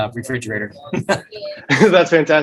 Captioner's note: laughs